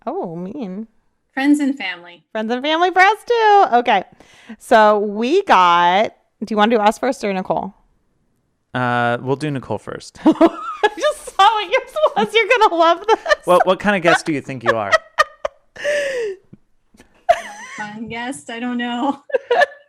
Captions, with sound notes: - Oh, mean. - Friends and family. - Friends and family for us too. Okay. So, we got, do you wanna do ours first or Nicole? - We'll do Nicole first. - (laughs) You're gonna love this. - Well, what kind of guest do you think you are? - A fun guest. I don't know.